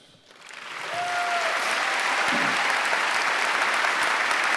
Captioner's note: applause